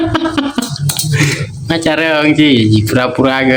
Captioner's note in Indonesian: tertawa